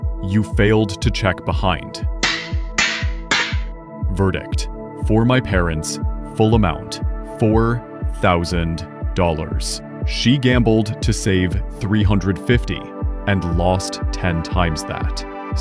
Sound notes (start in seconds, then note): 2.2 gavel sound